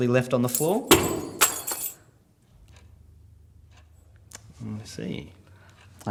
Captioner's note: keys thumping and jingling